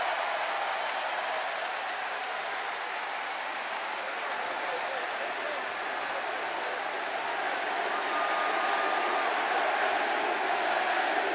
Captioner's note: crowd cheering